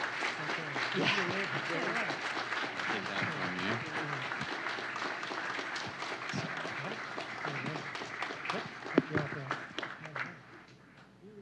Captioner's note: applause